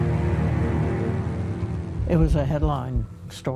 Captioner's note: ominous music; plane propeller whirring